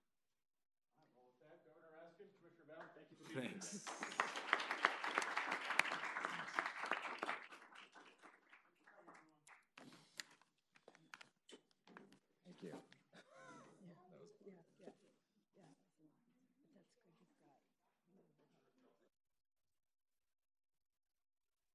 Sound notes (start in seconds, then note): 3.3 applause